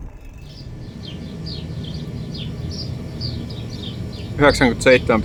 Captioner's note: birds chirping